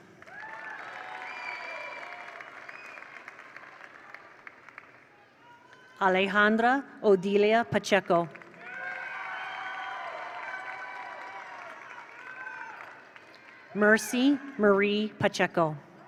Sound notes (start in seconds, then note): 0.0 attendees cheer; 0.0 attendees applaud; 8.3 attendees applaud; 8.4 attendees cheer